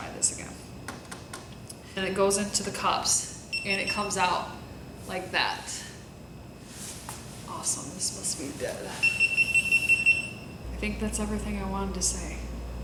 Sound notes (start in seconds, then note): 4.2 beep beep; 9.0 beep beep beep beep beep